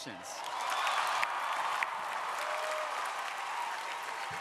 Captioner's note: crowd applauding